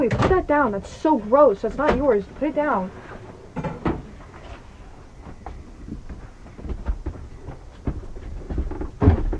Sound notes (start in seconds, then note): 6.1 floor creaks